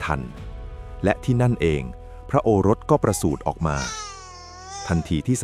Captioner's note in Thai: เสียงร้องไห้